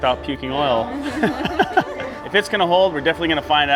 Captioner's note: laughter